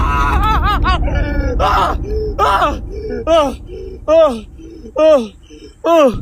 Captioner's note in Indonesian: tertawa